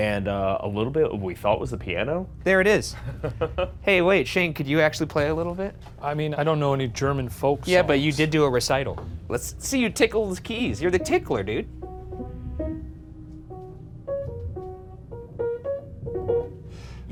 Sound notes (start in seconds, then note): 3.0 laughing; 12.5 soft piano music